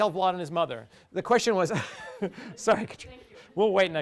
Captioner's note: laughs